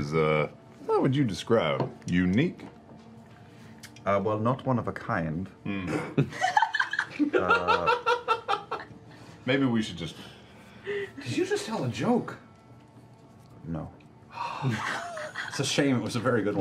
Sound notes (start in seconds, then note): 5.8 laughter